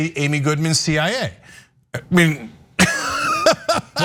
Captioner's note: laugh